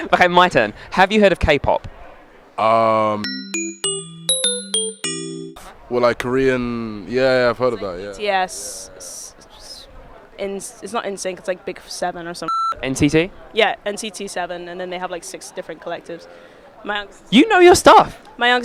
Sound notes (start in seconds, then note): 3.2 happy electronic bell music; 12.5 negative beep